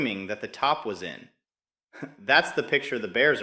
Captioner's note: chuckles